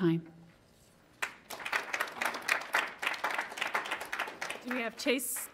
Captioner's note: audience applauds